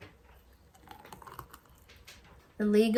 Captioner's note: liquid pours